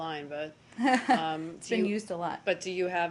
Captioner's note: laughter